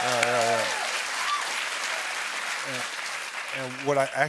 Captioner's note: cheers and applause